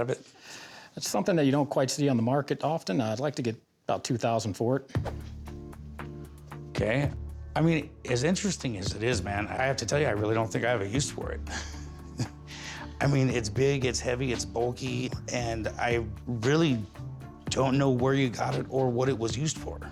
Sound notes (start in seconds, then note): 11.4 chuckles